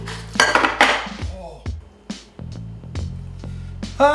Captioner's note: glass clatters